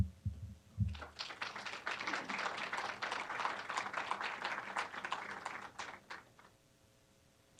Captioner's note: applause